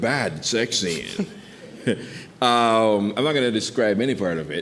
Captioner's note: chuckling